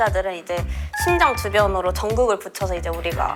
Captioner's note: heart rhythm signal